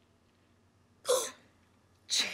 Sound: gasping

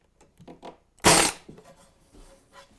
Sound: staple gun

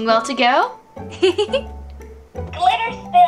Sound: giggles

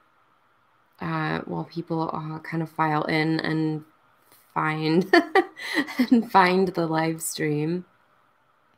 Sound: laughs

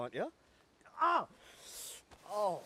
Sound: yelling

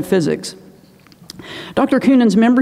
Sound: inhales

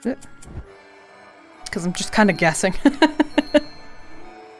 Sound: laughs

